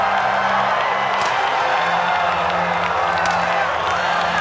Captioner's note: crowd cheering